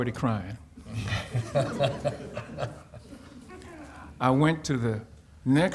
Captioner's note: audience laughing